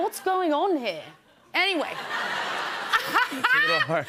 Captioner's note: laughs